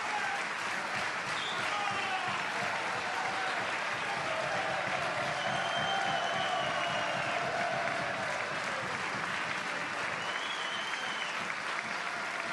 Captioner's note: applause